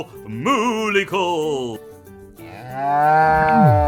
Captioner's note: cow moo